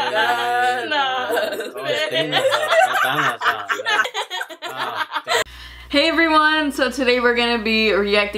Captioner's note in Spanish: La risa